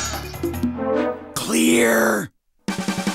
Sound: loud whisper

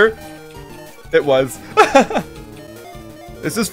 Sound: laughs

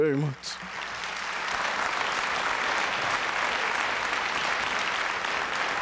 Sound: applause

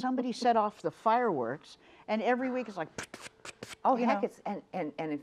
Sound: sputters

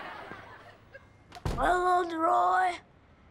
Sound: hoarsely

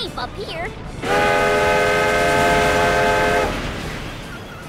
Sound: steam engine whistling noise

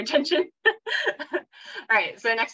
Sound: laughs

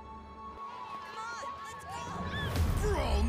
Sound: kids playing

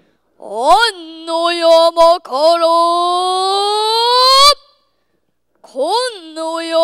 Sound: chanting

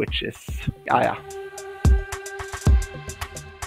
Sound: voiceover

